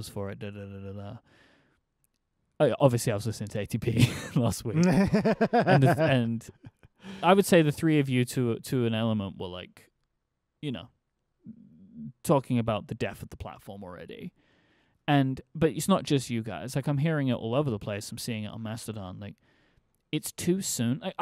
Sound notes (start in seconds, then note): 4.7 laughing